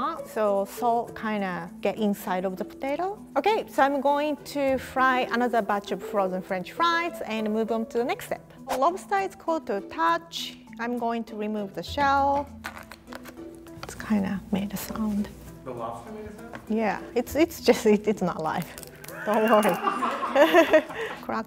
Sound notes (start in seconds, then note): 12.6 shell cracking; 19.1 all laughing